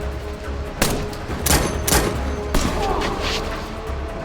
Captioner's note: dramatic music; gun banging; dramatic music; man groaning